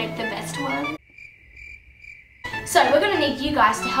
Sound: crickets chirping

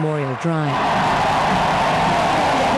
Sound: crowd cheers

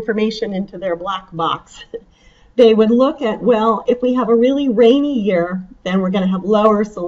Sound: chuckles

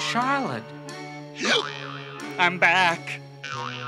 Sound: hiccup

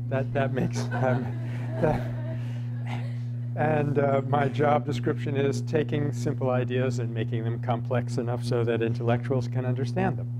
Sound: laughter

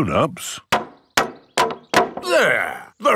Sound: hammering

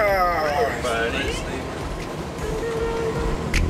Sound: groaning

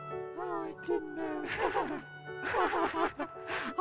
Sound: laughs

